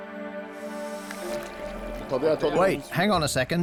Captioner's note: speaking French